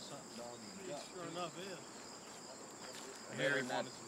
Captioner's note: background talking